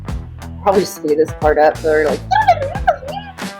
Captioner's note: squeaky mouse sounds